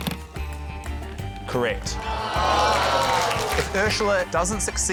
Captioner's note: audience groans